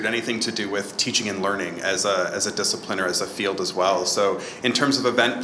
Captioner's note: none